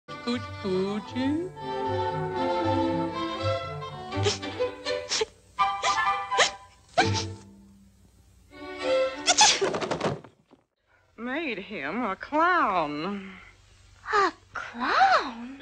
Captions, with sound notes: Cooch coochy *sneezes* Made him a clown. A clown?